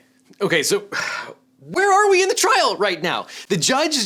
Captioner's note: exhales